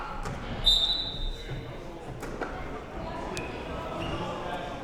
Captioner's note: whistle blowing